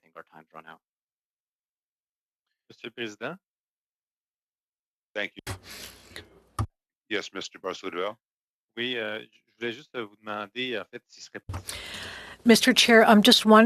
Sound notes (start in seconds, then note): 8.8 speaking French